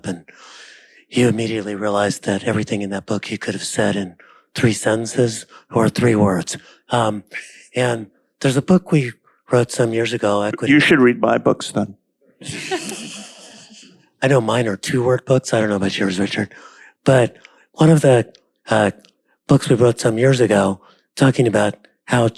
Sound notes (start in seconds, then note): 12.4 panel laughing